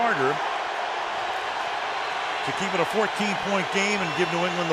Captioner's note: crowd cheering